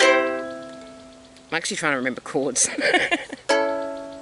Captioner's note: laugh